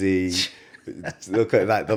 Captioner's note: laughs